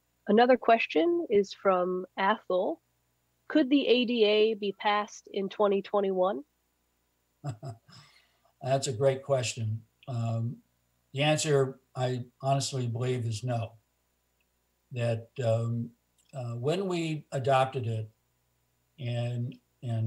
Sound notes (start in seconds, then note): 7.4 laughs